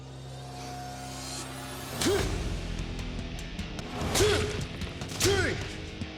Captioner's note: grunting